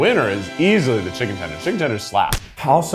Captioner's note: hand slaps